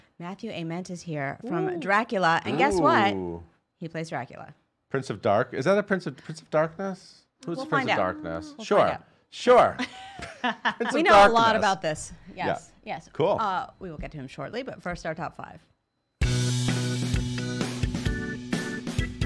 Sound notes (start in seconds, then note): 9.7 laughter; 16.2 upbeat pop music